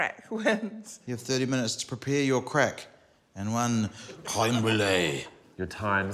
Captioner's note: french accent